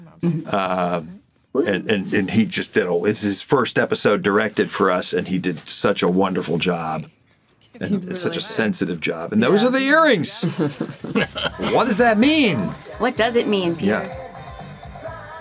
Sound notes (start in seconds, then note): 10.4 chuckles